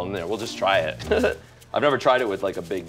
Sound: chuckles

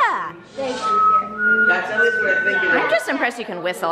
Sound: whistles

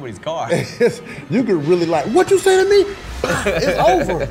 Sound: laughs

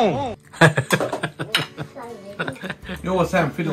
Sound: hahaha

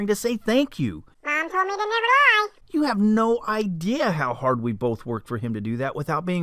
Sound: man's voice

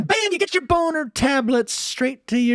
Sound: audio reduces to normal speed

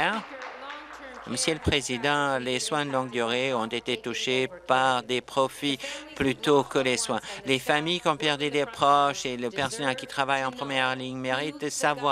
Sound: applause

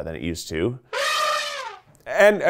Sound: elephant trumpeting

